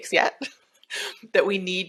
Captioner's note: chuckles